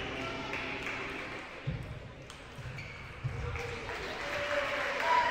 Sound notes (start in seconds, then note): 0.1 audience applauding; 1.6 sneakers squeaking; 3.3 audience cheering